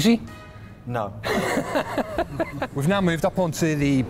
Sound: laughs

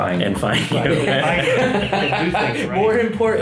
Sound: laughing

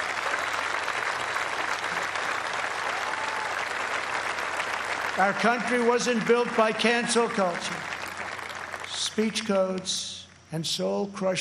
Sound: applause

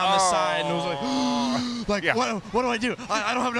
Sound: gasps

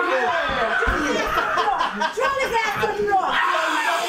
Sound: screaming

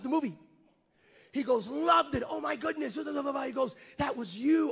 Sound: stutters

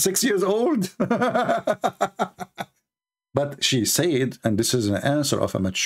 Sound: Ketawa

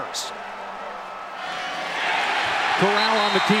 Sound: crowd cheering

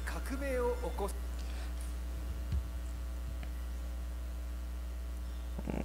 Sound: foreign language audio clip plays

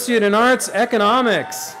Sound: cheering

